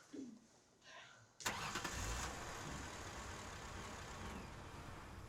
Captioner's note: car engine revs